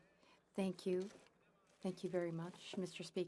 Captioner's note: speaking French